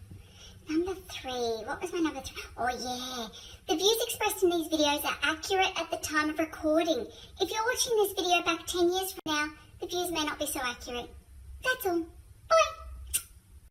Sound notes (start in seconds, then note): 13.0 smooch